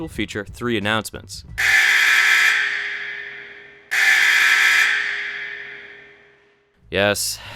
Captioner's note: siren blaring